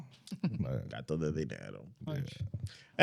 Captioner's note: speaking In Foreign Language